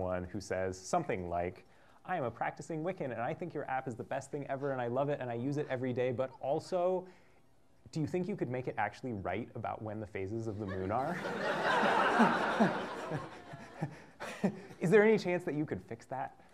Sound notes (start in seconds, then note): 12.9 laughter